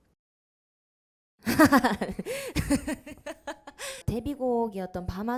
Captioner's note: laughing